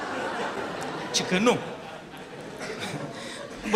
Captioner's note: laughter